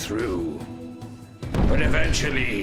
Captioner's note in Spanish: Explosión